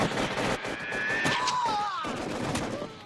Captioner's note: screams in agony